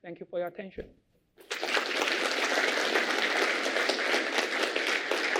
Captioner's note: applause